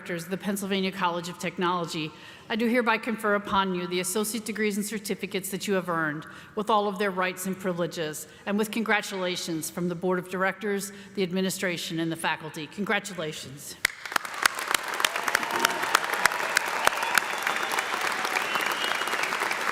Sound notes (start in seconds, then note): 13.8 audience applauding; 14.2 audience cheering